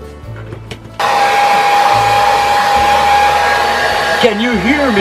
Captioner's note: loud hair dryer sound